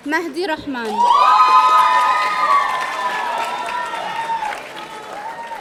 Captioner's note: audience cheering